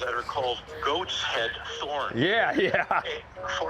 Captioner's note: laughs